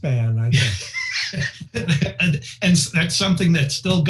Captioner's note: laughing